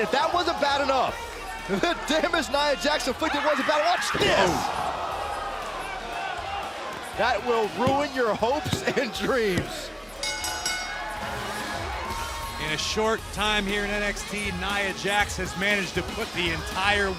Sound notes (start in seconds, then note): 10.1 bell